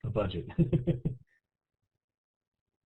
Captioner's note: laughs